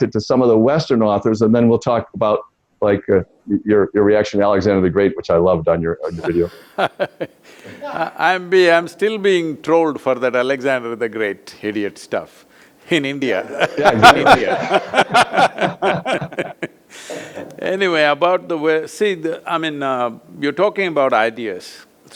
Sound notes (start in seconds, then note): 6.0 Sadhguru Laughs; 8.3 laughs; 13.4 both laugh